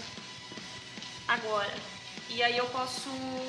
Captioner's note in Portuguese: none